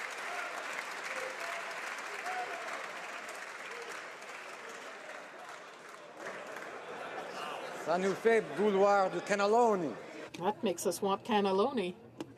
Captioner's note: applause